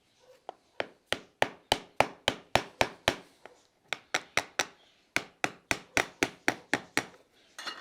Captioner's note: hammer striking nails